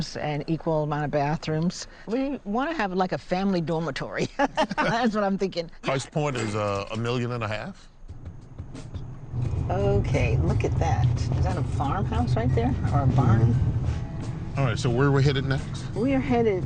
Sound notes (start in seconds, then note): 4.2 laughs; 8.6 gentle music